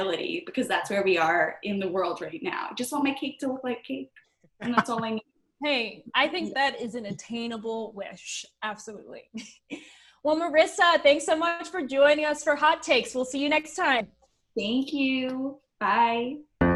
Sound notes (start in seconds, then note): 9.4 chuckles